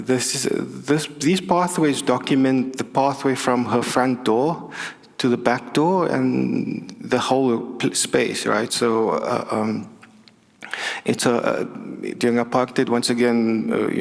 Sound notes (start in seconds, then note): none